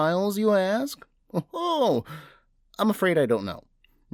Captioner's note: laughs